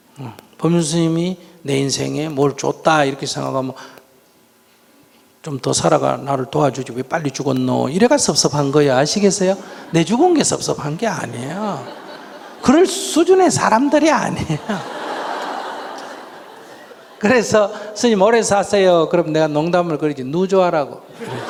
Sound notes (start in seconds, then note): 11.5 audience laughing